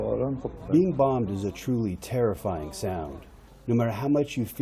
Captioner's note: through translator